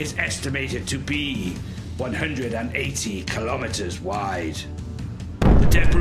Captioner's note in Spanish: Explosión